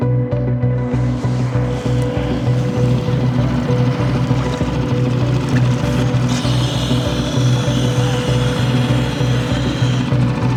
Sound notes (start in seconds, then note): 6.7 air hisses